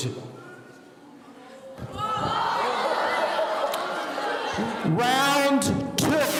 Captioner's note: students shouting